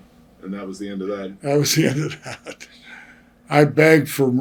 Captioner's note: laughs